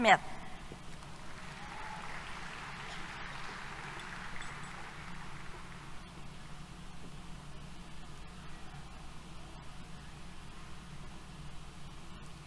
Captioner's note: applause